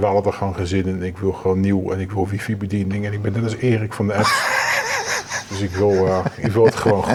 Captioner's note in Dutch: gelach